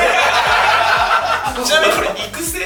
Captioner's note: laughter